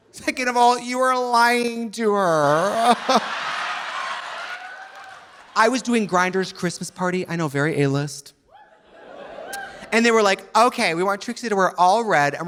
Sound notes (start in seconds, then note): 2.6 audience laughing; 2.6 laughs; 9.4 audience cheering